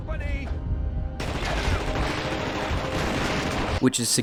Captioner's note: guns shooting